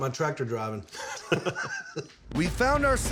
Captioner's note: laughter